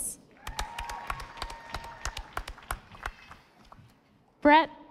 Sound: audience applauding

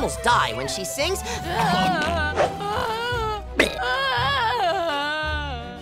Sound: groaning

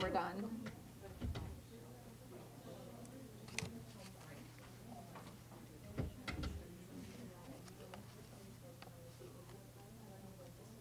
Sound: chatter

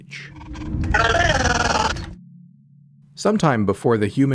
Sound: alien screams

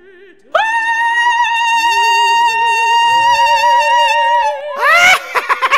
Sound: ghost howl; manic laughter

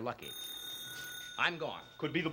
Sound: telephone ring

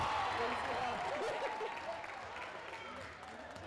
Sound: cheering

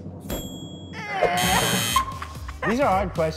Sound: laughing, buzzing

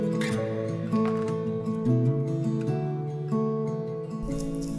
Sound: soft acoustic music; pages turning

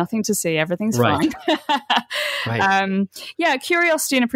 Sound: laughs

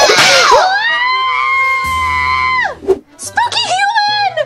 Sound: Vampirina screams

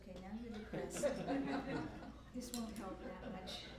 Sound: laughter

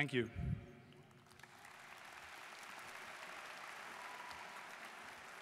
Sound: students applauding

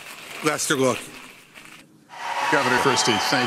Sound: sound of crinkling of paper

